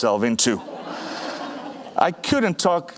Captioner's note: audience laughing